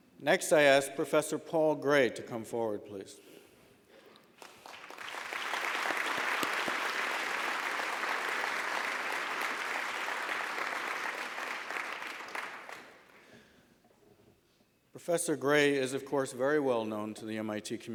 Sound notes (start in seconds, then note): 4.7 applause